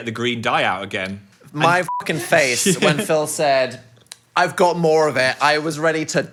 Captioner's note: beep